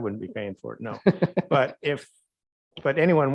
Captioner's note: laughs